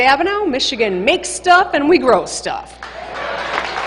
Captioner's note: applause